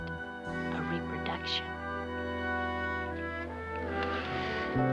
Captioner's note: sighs